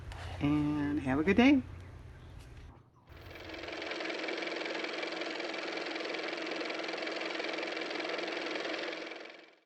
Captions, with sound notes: and have a good day (car motor)